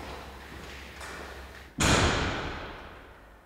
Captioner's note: footsteps, door closes